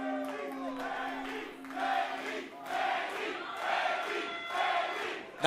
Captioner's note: fans chanting